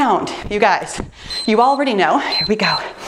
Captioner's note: timer beeps